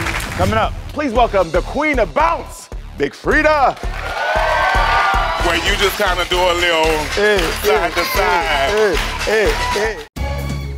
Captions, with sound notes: Coming up, please welcome the Queen of Bounce, Big Freedia. (audience cheers) - Where you just kinda do a little- - Eh, eh, eh. - Side to side.